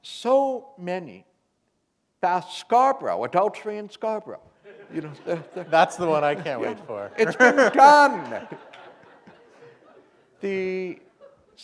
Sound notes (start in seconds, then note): 6.9 laughter